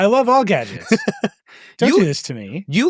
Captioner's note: laughs